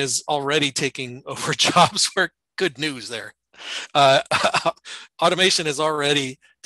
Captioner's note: chuckling